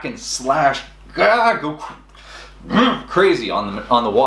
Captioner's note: grunts